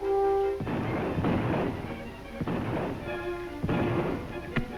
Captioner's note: gunshot firing